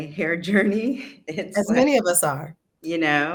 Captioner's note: laughs